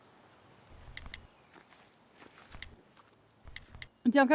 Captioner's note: phone keys tapping